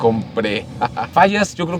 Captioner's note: laughter